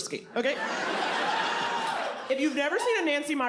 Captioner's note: audience laughs, cheers